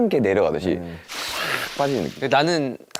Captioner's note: whoosh